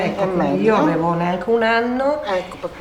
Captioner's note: chatter